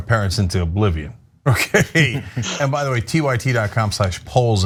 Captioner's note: laugh